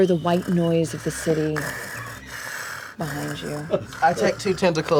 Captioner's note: breathes heavily